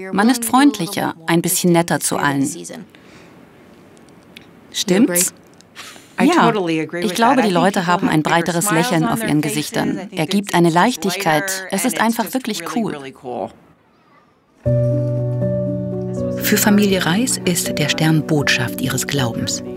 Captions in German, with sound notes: Man ist freundlicher, ein bisschen netter zu allen. Stimmt's? (englisch:) Ja, ich glaube, die Leute haben eine breiteres Lächeln auf ihren Gesichtern. Er gibt eine Leichtigkeit, es ist einfach wirklich cool. (Ruhige Musik) Für Familie Rice ist der Stern Botschaft ihres Glaubens.